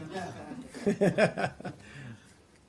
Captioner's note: laughter